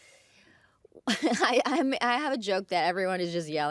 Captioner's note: chuckles